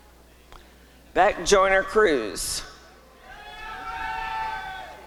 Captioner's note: applause and cheering